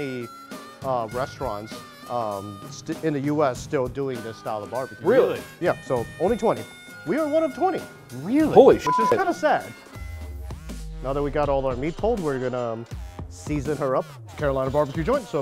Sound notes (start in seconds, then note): 8.8 beep